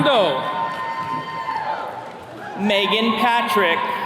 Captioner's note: attendees cheering